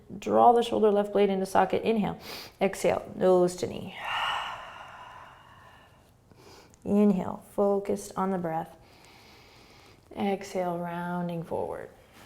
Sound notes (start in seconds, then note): 3.9 exhaling